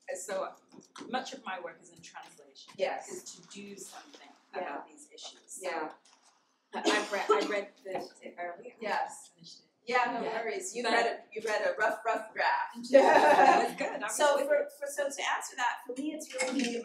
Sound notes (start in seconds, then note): 12.8 laughter